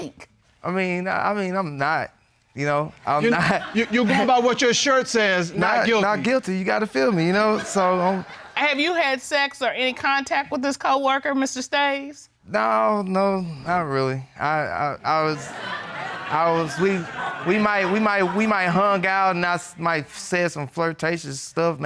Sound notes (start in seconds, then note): 15.2 audience laughing